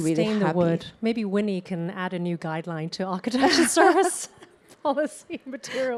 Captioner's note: both laugh